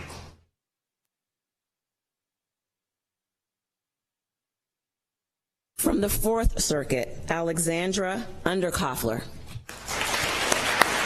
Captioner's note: applause